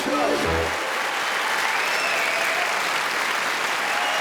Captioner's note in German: lebhafte Musik; Publikum applaudiert